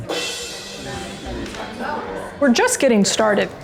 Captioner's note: people chattering